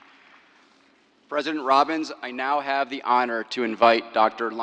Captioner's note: applause